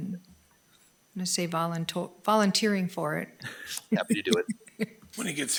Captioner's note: laughs